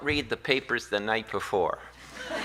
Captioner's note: laughter